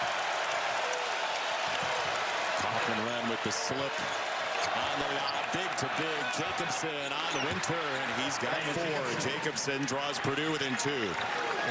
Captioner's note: cheers and applause